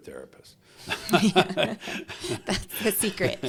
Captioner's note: both laughing